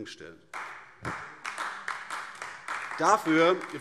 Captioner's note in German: Beifall AfD